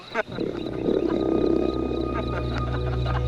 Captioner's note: teenagers laughing; dark ambient music; growling